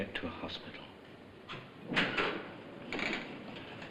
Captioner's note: door opening